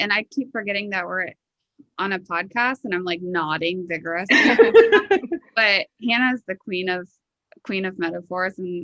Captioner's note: laughing